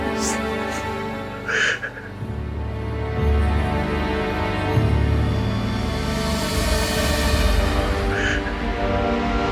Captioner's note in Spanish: Sollozos